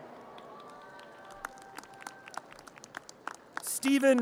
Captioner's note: audience cheers and applause